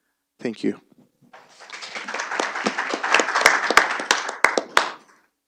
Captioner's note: applause